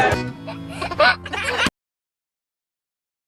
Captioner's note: giggling